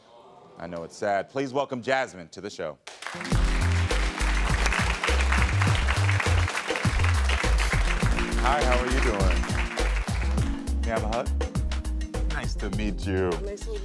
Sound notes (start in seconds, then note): 2.8 audience applauds; 3.1 upbeat music